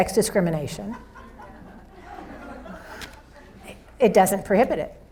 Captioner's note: audience laughs